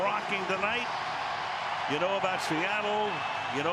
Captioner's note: cheering